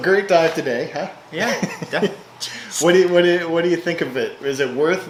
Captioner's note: laughing